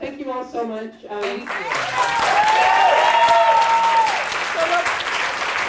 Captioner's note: cheering and clapping